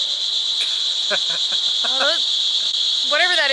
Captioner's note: laughing